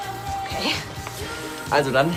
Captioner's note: laughs